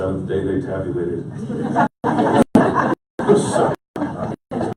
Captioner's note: all laughing